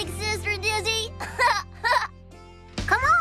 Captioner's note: laughs